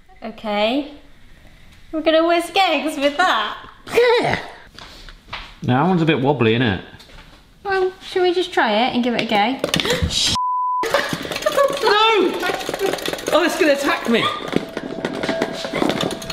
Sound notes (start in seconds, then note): 10.3 beeping